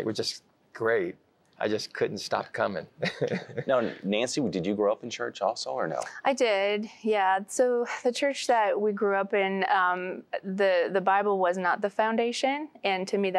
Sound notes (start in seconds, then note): 3.0 chuckling